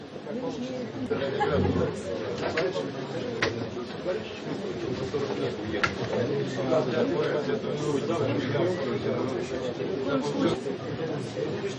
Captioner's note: background noise and comments